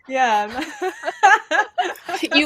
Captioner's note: laughter